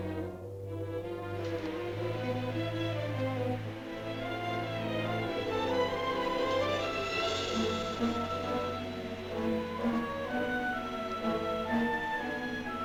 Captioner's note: soft suspenseful music; suspenseful music; air hissing